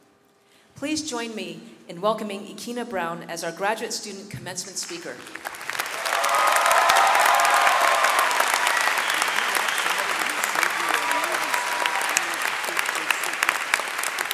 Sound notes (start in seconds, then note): 5.4 audience cheering and clapping